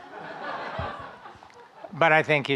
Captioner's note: audience laughing